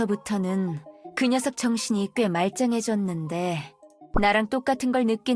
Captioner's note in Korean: none